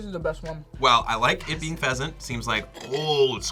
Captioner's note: whispers